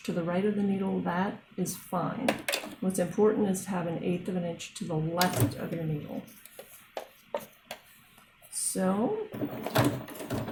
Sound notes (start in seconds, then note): 5.2 machine noises